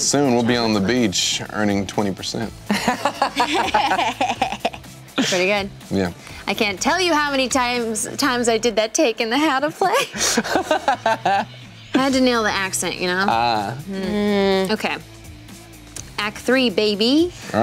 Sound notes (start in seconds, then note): 2.7 laughing